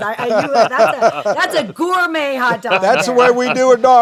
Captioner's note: laughter; laughter continues